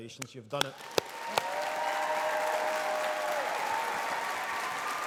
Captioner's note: audience applauding